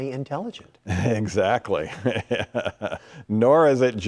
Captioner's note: laughing